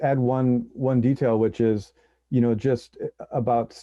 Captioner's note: chuckles; laughs